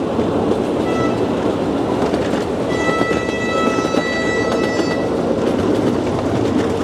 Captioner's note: Speeder horn blows - multiple times